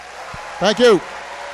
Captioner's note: applause